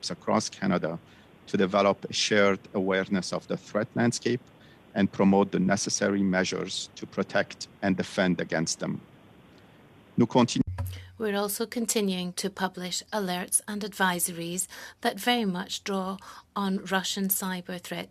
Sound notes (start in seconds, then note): 15.1 speaking French